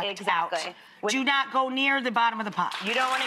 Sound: audience applauding

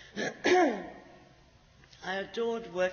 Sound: clears throat

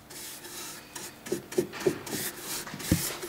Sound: scratching noise

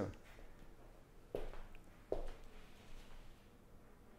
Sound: footsteps clacking

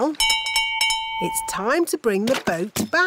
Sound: bell rings

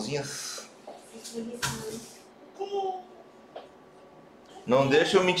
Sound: brother babbling

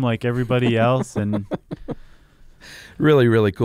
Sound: laughing

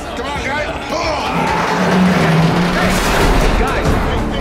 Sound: metal groaning

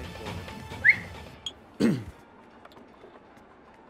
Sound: whistles and clears throat

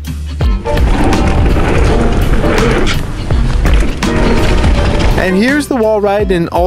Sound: tires rumbling on the ground

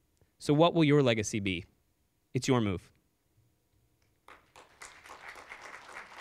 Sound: applause

